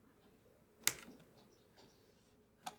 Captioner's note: spacebar click